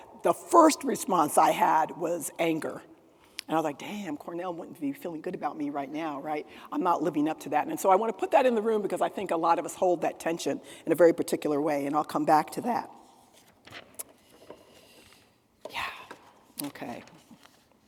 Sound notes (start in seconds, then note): none